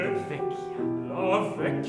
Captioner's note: whispers